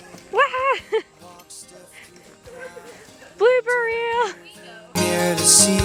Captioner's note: laughs